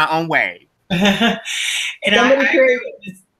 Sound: laughing

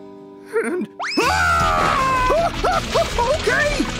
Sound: screaming

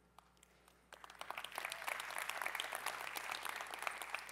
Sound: cheering

